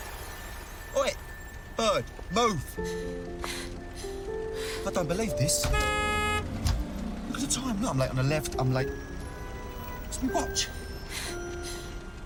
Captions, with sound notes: OI, BIRD, MOVE. - I DON'T BELIEVE THIS. - ( honks horn ) LOOK AT THE TIME. I'M LATE ON THE LEFT. I'M LATE-- WHERE'S MY WATCH?